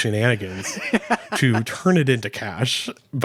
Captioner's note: laughing